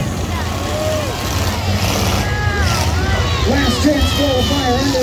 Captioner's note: engines rev